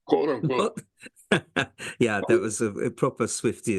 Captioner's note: laugh